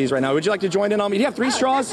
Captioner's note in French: laughter